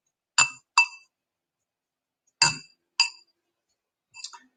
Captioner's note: clinks side of vase